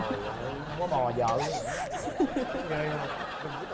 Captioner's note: laughing